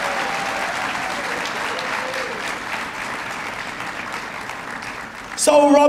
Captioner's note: applause